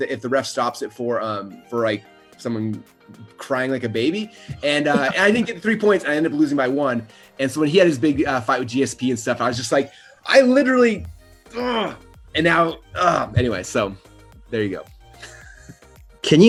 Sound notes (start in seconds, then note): 11.6 growls; 15.2 laughs